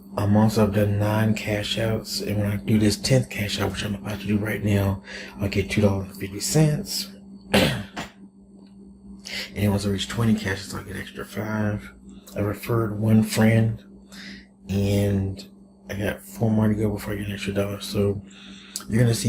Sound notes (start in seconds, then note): 7.5 coughs